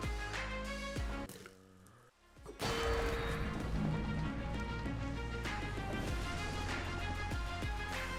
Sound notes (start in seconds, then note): 1.5 music Stops